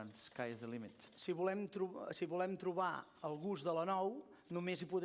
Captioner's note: non-english speech